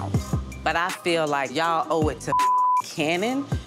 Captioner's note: beep